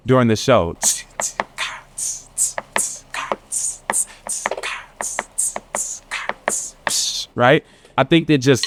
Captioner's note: beatboxing